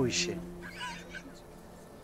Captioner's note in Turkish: Gülüyor